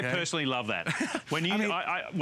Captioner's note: laughter